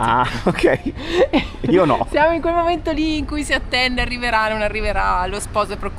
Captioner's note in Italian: risate